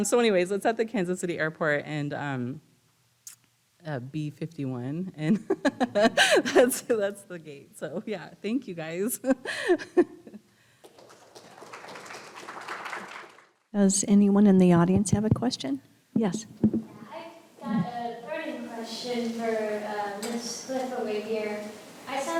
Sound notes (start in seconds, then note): 5.3 laughs; 10.5 laughs; 10.8 audience applauding